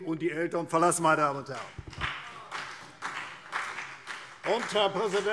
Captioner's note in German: Beifall CDU und BÜNDNIS 90/DIE GRÜNEN